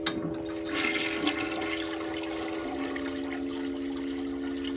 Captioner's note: toilet flushing